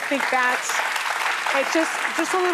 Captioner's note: applause